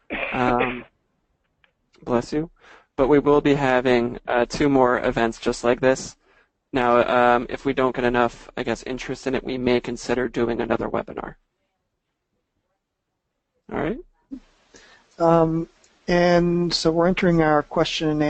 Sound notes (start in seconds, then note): 0.0 someone sneezing